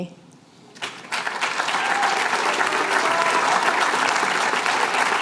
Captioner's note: applause